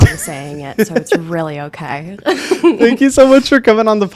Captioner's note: laughs